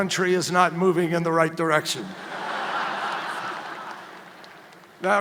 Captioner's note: laughter